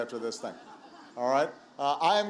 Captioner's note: laughter